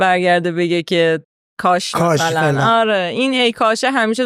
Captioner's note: laughs